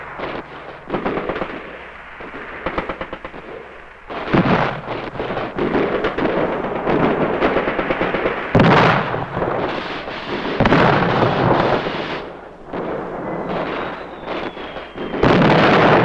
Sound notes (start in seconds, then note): 0.0 guns blasting; 8.4 explosions booming; 8.4 guns blasting